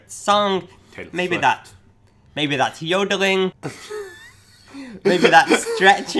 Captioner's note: laughs